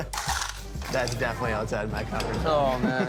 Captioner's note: laughs